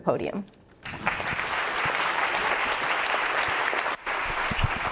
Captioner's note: audience applauding